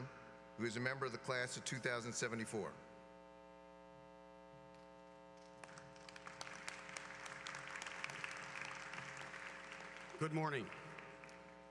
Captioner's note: applause